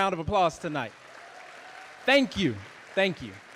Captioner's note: audience applauding